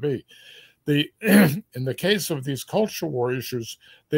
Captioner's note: cough